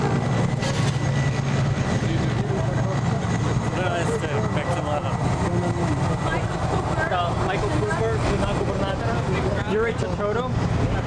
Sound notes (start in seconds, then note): 8.3 non-english